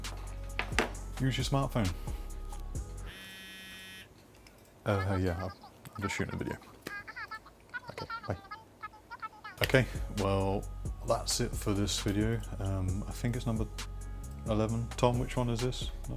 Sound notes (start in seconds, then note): 3.0 mobile phone vibrating